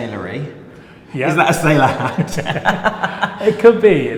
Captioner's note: laughing